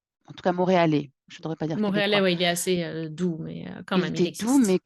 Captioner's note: The Montreal accent